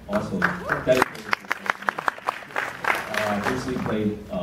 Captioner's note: applause